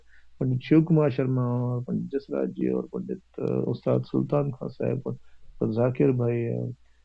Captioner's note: foreign language 00:58:19